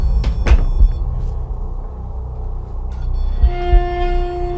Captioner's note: device beeping